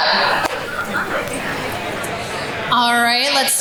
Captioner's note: audience chatters